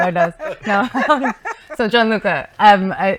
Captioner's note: laughing